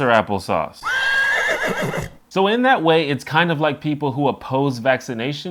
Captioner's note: horse neighs